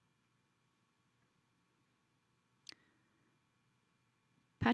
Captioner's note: silence